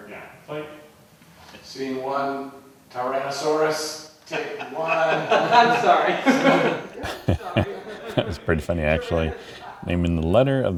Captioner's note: laughter